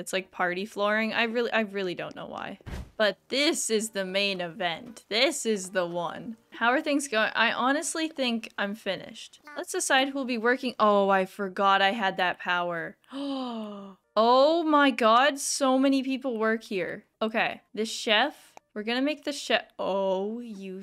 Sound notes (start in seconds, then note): 13.1 gasp